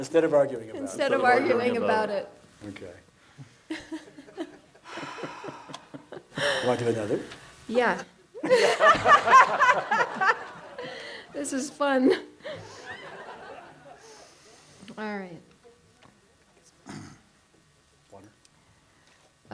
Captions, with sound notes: - instead of arguing about it. - instead of arguing about it. - Okay. (laughing) You wanna do another? - Yeah (laughing) this is fun! (audience laughs) Alright. - Water?